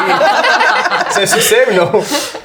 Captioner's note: the group laughs